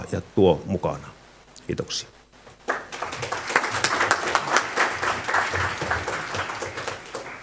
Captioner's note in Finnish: Aplodeja